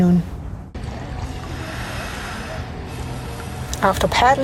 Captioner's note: sound of manatee breathing